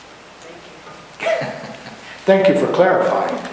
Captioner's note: laughter